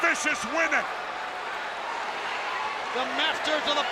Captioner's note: spectators cheering